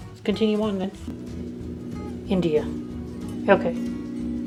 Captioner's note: sound of airplane overhead